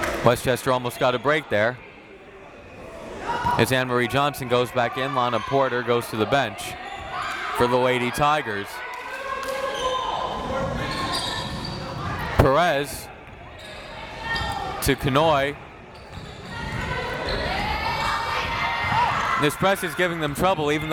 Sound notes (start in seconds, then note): 9.3 crowd members shouting; 16.5 crowd members shouting